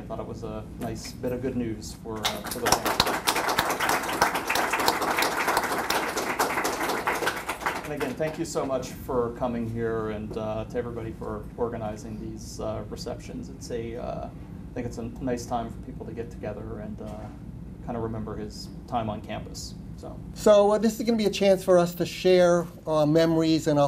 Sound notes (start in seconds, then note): 2.2 applause